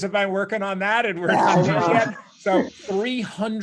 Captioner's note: laughing